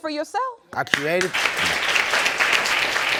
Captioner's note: applauding